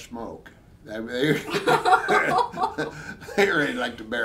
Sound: both laughing

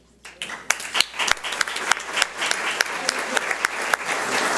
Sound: audience applauds

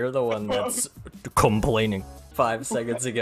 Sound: complaining

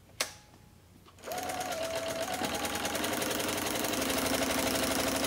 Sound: machine whirs

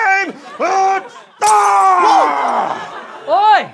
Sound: screams

